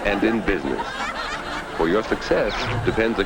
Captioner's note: audience laughs